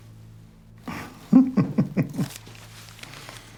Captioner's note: laughs